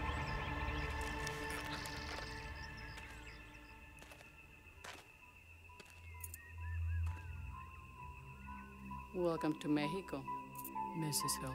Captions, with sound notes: (key rattling) (suspenseful music) - Welcome to Mexico, Mrs. Hillson.